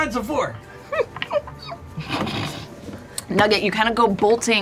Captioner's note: laughs